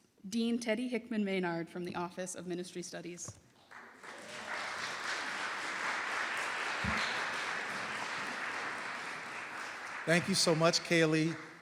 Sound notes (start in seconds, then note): 3.6 applause